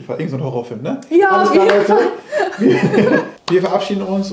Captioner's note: laughing